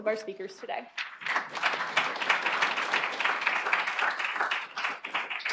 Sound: applause

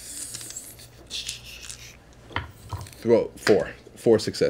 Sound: dice rattle

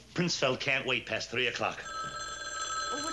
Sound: phone rings

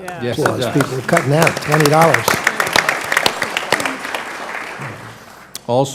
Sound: applause

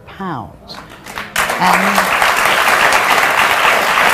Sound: audience claps

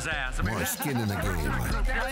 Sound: laughter

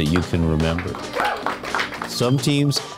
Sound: students applauding

